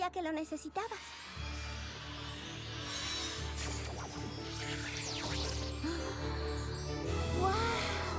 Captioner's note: whoosh